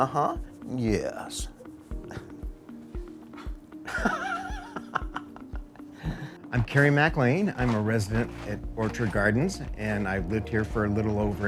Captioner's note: laughs